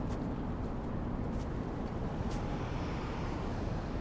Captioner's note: footsteps in snow